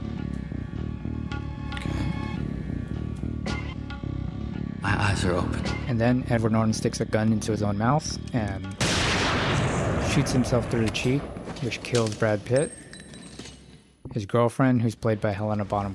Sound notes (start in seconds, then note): 8.8 gun shot